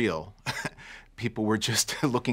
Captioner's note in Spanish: Risas